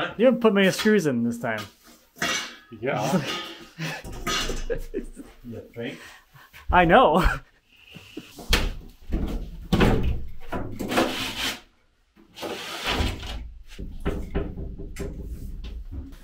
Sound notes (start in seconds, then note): 2.9 laughing; 8.5 boards banging